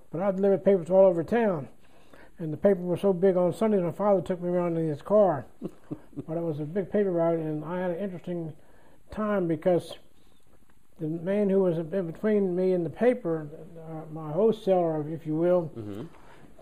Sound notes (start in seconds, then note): 5.6 laughter